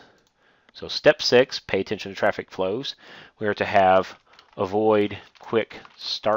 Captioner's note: click; typing